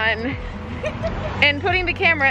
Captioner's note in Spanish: riendo